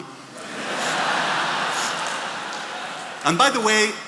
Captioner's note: attendees laughing